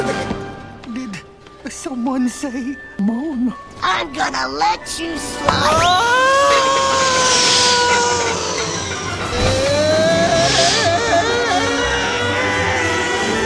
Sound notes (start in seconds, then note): 5.5 Pooh screaming